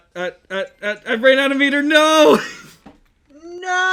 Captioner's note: laughs slightly